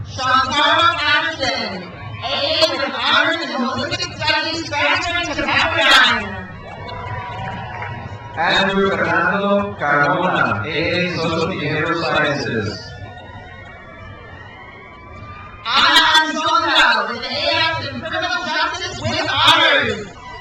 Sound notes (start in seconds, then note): 6.8 crowd cheers; 13.3 crowd cheers